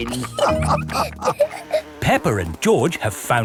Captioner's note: all laughing